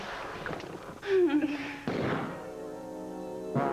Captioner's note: gunshot